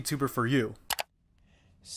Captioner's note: mouse click